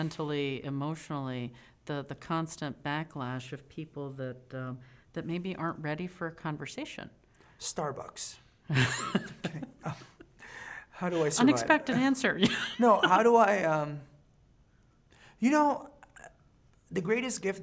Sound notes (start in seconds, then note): 8.7 laughing; 12.8 laughing